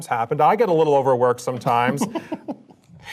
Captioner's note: laugh